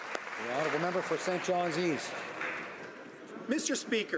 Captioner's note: some Applause